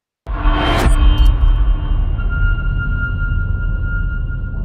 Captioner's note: dramatic sound